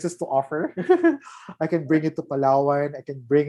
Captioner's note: laughs